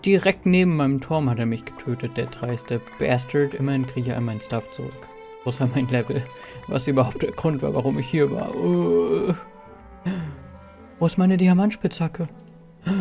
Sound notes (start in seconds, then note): 8.4 painful moan; 10.0 gasp